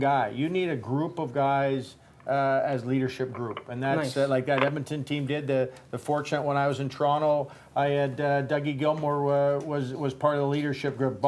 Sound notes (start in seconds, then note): none